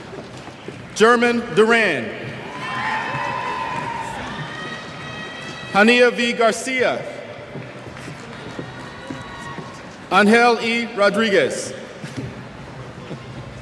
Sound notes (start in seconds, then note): 2.4 cheers